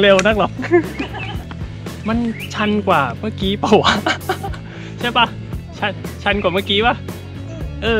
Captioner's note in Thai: ขำ